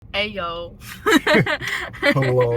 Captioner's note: laughter